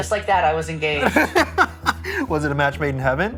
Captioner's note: chuckles